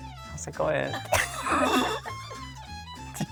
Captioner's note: both laughing